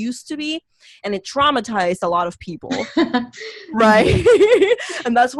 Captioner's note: laughs